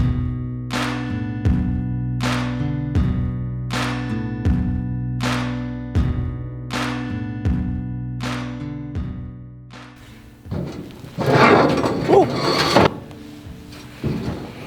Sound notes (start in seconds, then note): 0.0 slow clapping and music; 10.0 metal box creaking